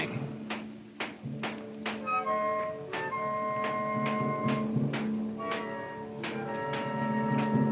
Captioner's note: pensive orchestra music; distant banging